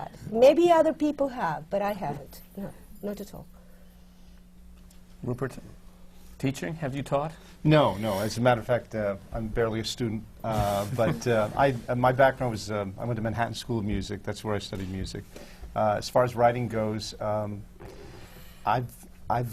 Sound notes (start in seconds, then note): 10.6 laughs